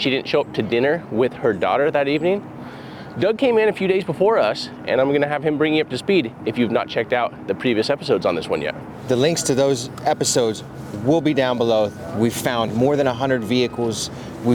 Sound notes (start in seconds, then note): none